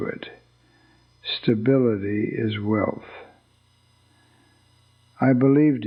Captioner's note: pause